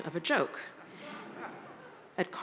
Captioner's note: audience laughs